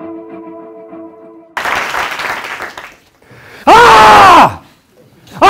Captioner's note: applause